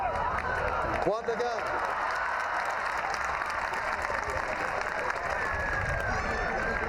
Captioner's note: crowd cheering, clapping